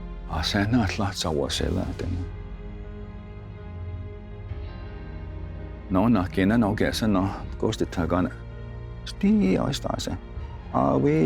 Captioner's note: tells story in Cherokee language